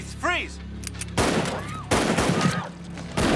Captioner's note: patrons scream